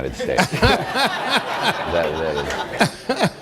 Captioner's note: laughter